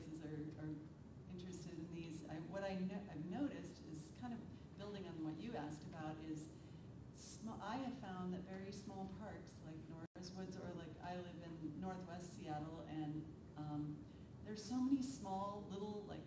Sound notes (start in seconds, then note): none